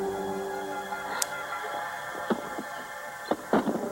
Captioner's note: disconnection signal